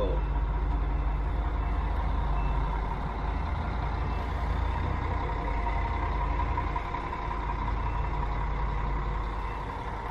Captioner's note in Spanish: Sonido de motor Scania y retroceso del bus